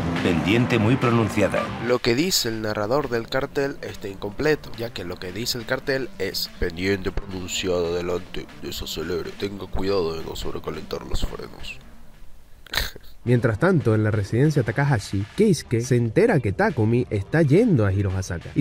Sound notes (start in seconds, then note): 12.6 chuckle